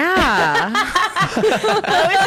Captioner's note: laughs